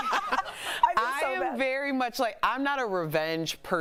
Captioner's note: laughter